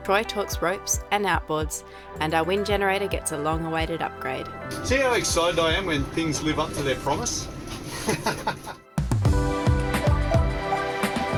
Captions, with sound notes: Troy talks ropes and outboards, and our wind generator gets a long-awaited upgrade. - See how excited I am when things live up to their promise? (laughing) (light music)